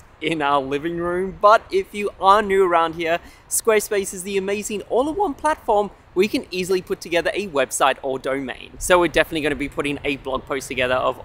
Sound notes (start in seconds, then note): none